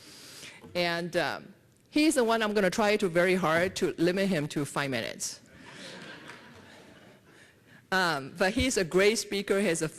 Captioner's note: laughter